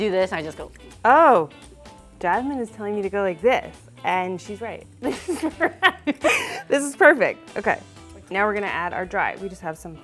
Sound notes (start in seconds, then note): 5.1 laughs